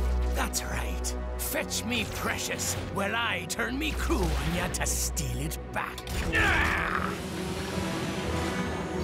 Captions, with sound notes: That's right, fetch me precious while I turn me crew on ya to steal it back! [Knuckles grunts]